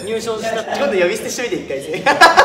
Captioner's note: haha